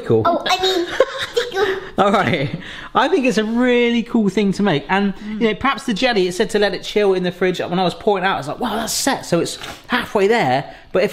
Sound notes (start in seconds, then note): 0.7 laughs; 0.8 all laughing